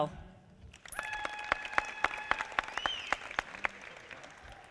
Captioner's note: audience applauding